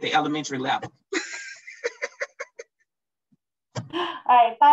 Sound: laughs

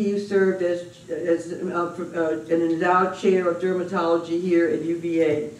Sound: none

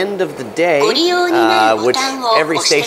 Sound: machine speaking in foreign language

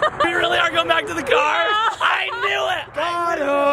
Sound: laughs

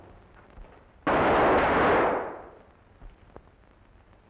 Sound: guns firing

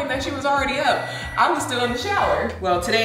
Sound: microwave beeping

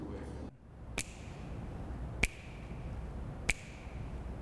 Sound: snapping fingers

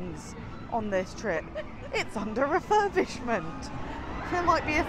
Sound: laughs

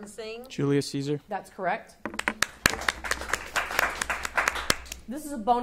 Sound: audience applauding

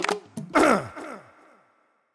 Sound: cough

